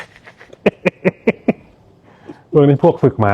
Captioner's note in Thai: เสียงหัวเราะ